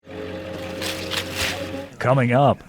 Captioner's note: plant rustling